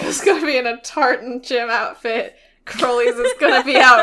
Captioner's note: laughs